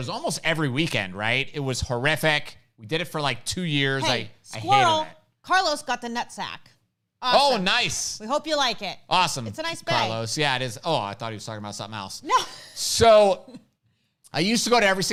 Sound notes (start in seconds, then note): 12.2 laughs